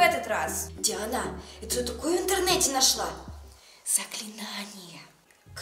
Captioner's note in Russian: Шёпотом